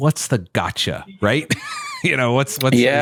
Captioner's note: laughs